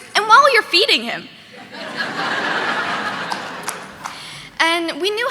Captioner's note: audience laughing